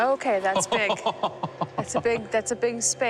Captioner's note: laughing